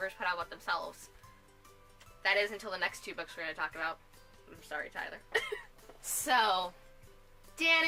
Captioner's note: weird laugh